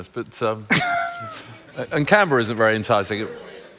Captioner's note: laughter; laughs